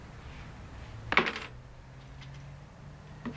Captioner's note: keys clatter